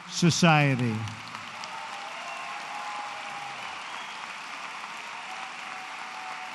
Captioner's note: applause